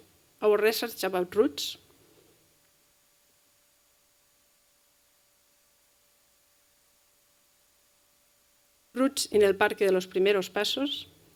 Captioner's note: spanish